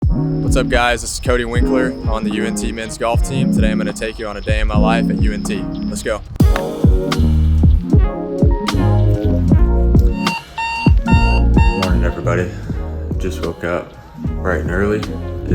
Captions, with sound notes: - What's up guys? This is Cody Winkler on the UNT Men's Golf Team. Today I'm gonna take you on a day in my life at UNT. Let's go. (easy electronic music) (alarm clock beeping) Morning, everybody. Just woke up bright and early.